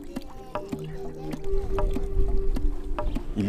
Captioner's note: water running, wind blowing